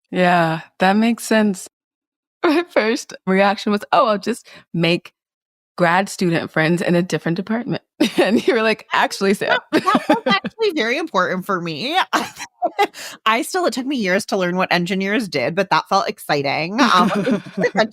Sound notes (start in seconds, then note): 9.2 laughing